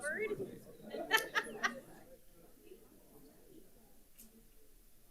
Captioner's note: photographer laughing